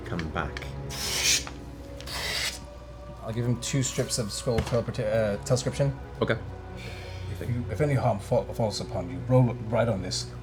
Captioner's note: ripping noises